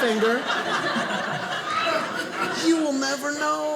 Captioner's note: audience laughing